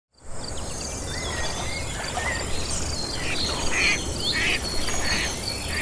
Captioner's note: nature sounds, insects, water, ducks quacking